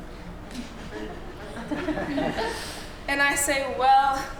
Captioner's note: laughter